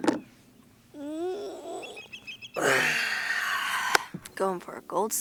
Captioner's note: groans, exhales sharply